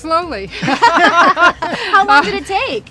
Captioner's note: everyone laughing